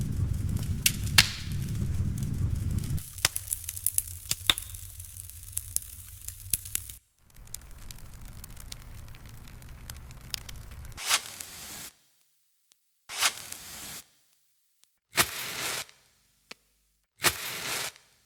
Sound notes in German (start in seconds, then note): 0.0 Lagerfeuergeräusch; 4.6 Kamingeräusch; 14.3 Streichholzgeräusch